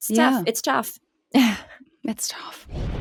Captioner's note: laughs